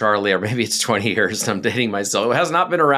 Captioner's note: laughs